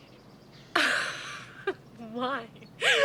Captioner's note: laughing